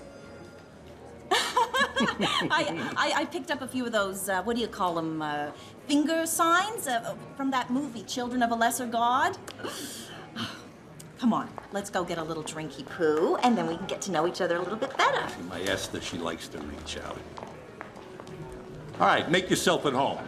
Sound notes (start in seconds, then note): 1.3 chuckling